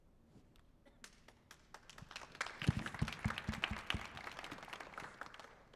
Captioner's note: audience applauding